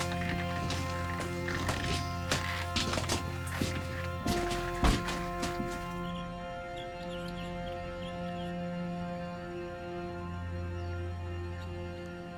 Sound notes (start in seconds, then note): 6.2 birds chirping